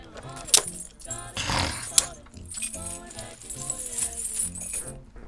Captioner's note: Brad grunting; handcuffs clicking; Brad snorting